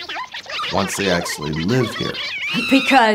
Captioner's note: scream